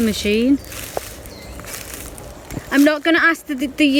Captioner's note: leaves rustling